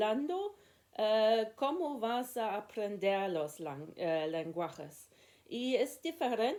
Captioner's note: in Spanish